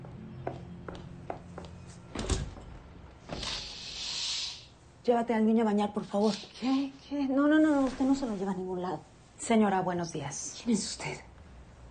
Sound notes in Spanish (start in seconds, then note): 0.8 Ruido de pasos; 3.3 Ruido al abrir la cortina